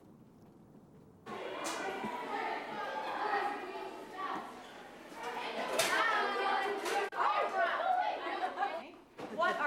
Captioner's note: sounds of children talking